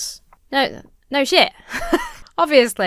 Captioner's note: laughs